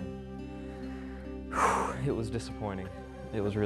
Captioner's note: sigh